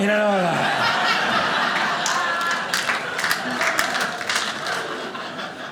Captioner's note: audience laughing